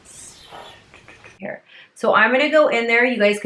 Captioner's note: light air blowing